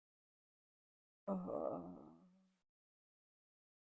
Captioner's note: groans